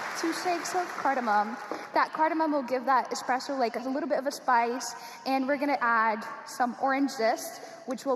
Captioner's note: applause